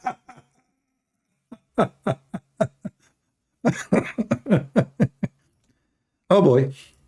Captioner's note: Ketawa